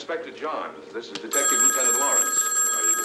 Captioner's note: phone rings